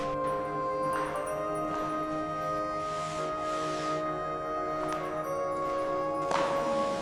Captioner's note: footsteps; dramatic music